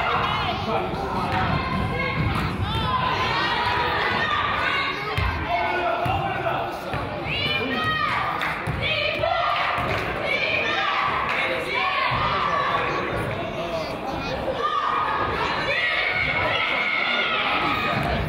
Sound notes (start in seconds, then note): 8.3 claps; 9.8 claps; 11.2 claps